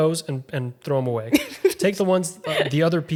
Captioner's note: laughing